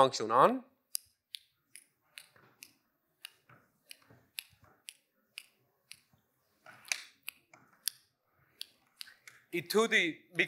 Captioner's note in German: Klicken